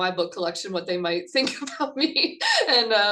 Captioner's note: laughing